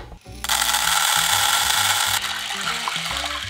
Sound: beans dropping; water pouring

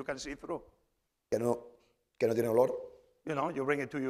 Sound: speaking spanish

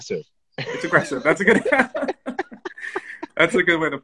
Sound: laughs

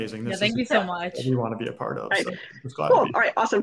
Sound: speaks faintly

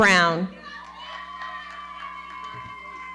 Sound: audience cheering and clapping

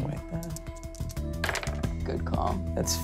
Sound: dice clattering

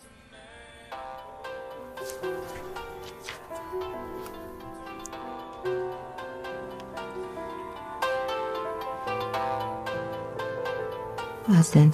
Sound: mobile ringing

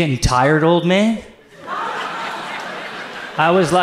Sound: audience laughs

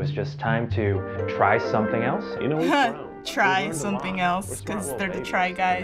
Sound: chuckles

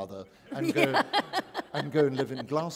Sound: laughter

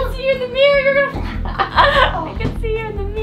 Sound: laughing

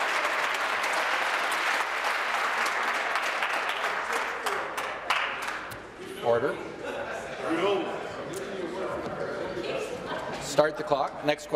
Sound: applause

